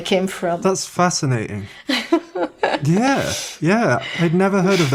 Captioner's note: laughs